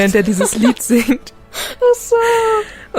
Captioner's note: laughs